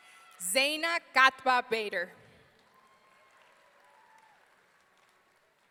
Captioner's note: audience cheering